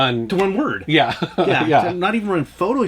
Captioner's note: laughs